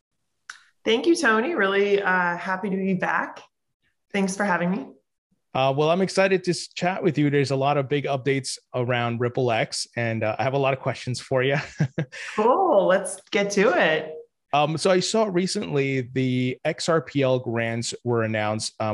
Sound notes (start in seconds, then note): 11.4 chuckles